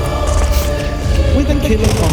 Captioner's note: gunshot blaring